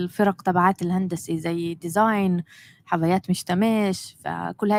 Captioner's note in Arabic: لغة أجنبية